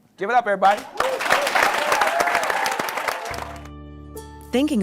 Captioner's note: applause